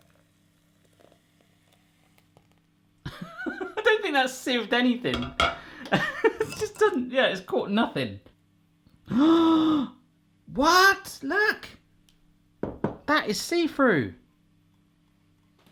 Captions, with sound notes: (laughs) I don't think that sieved anything. Yeah, it's caught nothing. (gasps) What, look, that is see through.